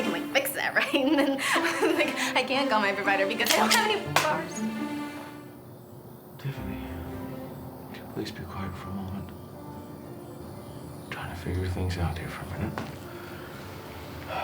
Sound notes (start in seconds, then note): 3.4 gun clicks